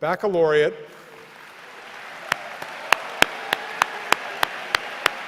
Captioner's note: everyone applauds